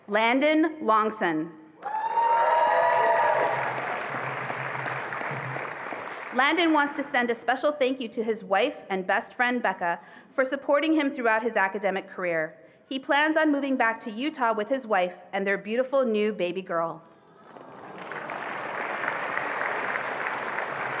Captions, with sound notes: Landon Longson. (attendees applauding and cheering) Landon wants to send a special thank you to his wife and best friend, Becca, for supporting him throughout his academic career. He plans on moving back to Utah with his wife and their beautiful new baby girl. (attendees applauding)